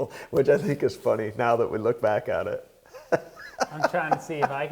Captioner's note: laughing